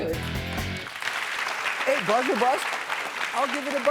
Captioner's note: audience clapping